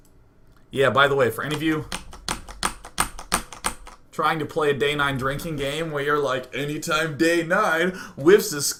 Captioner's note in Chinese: 敲 敲 敲 敲 敲